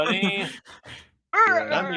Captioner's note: laughing